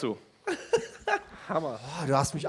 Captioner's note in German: lacht